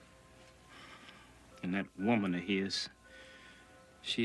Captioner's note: sighs